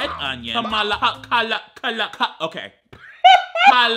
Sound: laughs

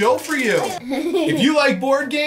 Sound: laughing

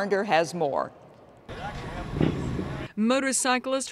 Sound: motorcycle engine roars

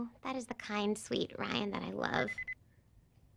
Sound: cellphone chimes

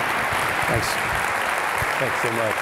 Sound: audience applauds

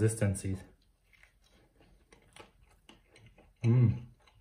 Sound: crunching

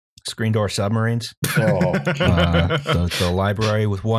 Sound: laughs

